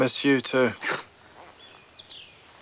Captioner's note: laughs